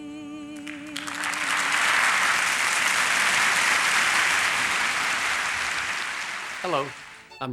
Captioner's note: applause